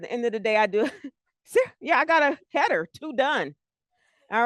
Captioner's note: laughs